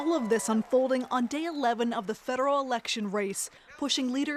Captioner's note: cheers and Applause